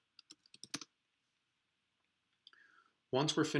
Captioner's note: typing